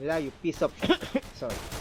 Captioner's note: ehem